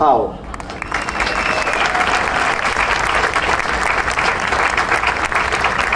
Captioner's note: audience cheering and applauding